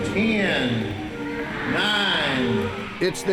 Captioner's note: christmas music; man on loudspeaker